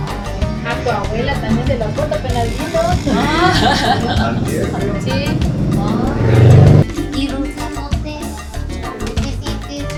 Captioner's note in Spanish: risas